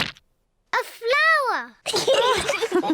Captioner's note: giggles; all laugh